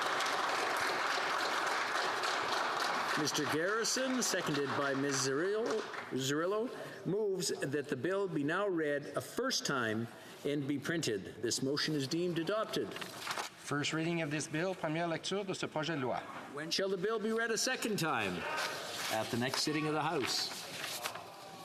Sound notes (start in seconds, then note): 5.4 applause; 18.9 speaking FRENCH